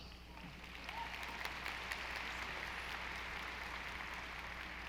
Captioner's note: audience applauding